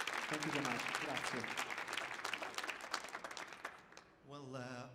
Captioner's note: speaks in foreign language